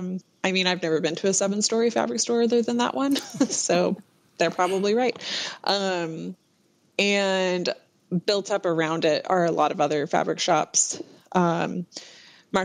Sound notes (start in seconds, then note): 3.1 laughter